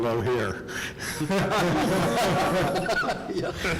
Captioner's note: laughing